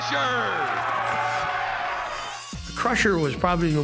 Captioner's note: crowd cheering